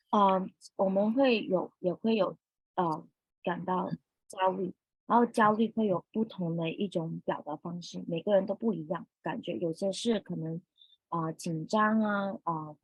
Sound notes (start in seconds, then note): 0.7 speaking chinese